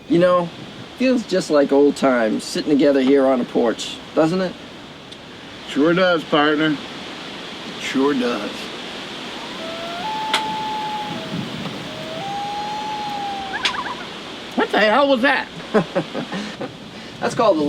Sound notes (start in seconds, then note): 9.1 bird howling; 15.7 Bradley laughing